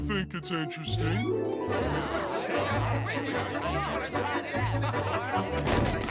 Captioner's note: chattering